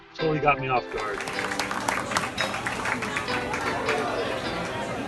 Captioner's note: people clapping